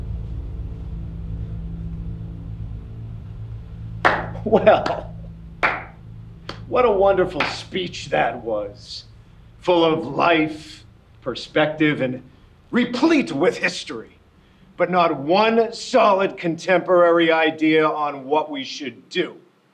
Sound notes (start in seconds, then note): 4.0 claps